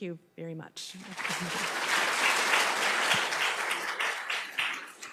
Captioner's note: audience clapping